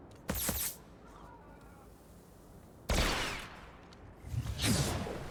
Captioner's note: gunshots